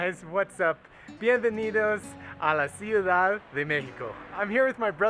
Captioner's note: in foreign language